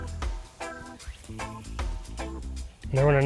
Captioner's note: line whooshing